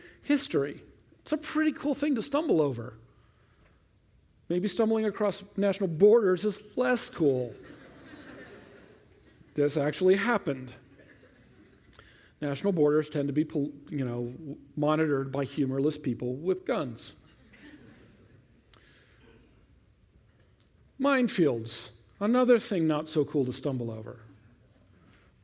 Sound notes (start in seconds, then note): 7.5 laughter